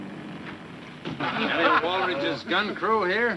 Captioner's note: men laughing